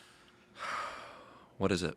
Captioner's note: sighs